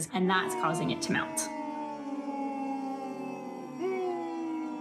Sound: booing

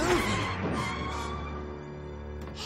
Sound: tires screech

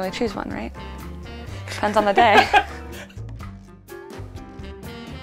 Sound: man laughs

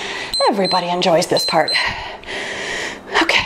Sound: timer beeps

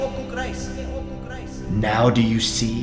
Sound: echoes

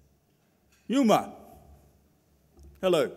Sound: speaks in foreign language

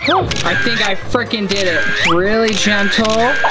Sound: camera Clicks

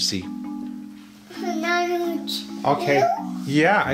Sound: mumbles

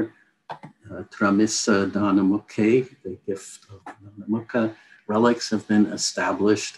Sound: non-english speech

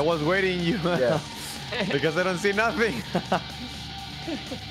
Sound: laughs

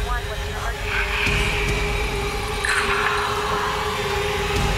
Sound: on phone

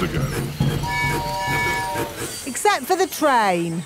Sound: train tooting

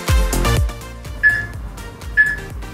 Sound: peep

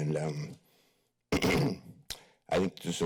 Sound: clears throat

